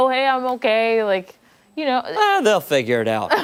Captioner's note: laughter